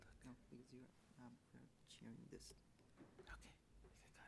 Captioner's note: man in gray suit mumbles